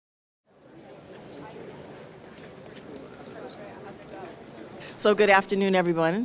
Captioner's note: crowd chattering indistinctly